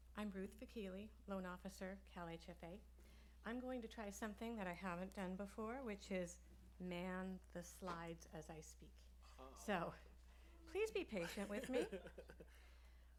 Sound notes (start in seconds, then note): 11.1 laughs